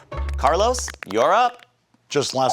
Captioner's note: audience lightly applauding